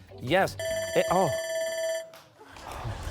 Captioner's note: timer; laughter